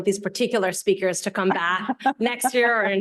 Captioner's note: Vestager chuckling